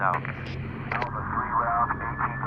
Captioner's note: radio crackles